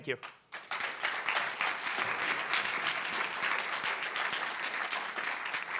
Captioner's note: audience applause